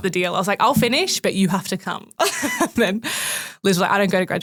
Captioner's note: laughs